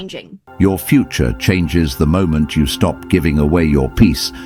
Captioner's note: AI Voice